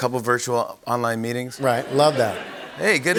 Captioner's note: laughter